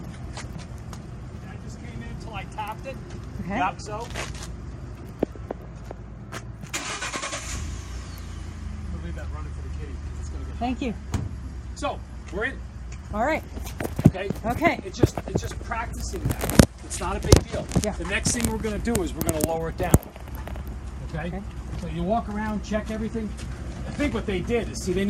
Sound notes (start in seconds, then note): 6.7 starts engine